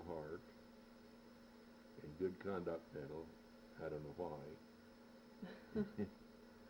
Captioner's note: both chuckle